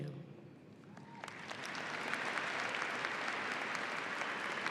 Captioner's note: audience applauding